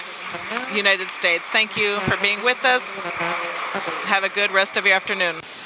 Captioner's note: applause